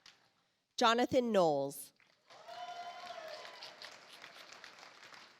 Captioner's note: audience applauds